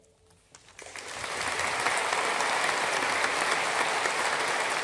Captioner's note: audience applauding